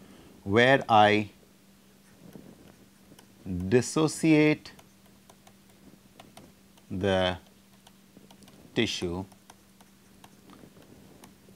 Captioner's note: statics